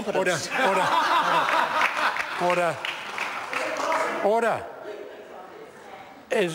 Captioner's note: members laughing